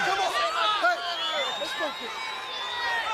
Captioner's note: crowd chatter